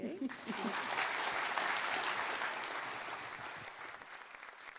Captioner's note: audience applause